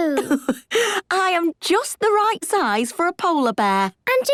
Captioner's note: laughs